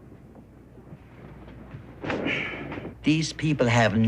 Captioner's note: sighs